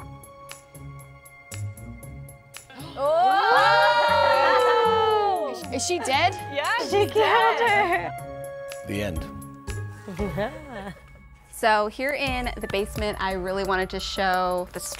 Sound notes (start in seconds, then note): 2.7 gasping and cheering; 10.1 laughing